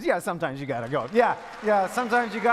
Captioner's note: audience claps